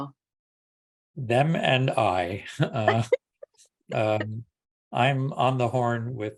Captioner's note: panel members laughing